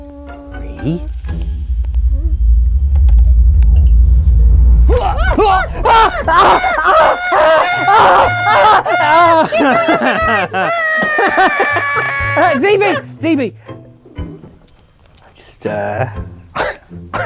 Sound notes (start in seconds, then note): 0.0 zb mutters and whimpers; 4.9 zb screams; 5.1 cries out repeatedly; 9.4 laughs; 9.4 zb cries out; 15.1 chuckling